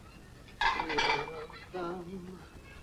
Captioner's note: plates clattering; Len humming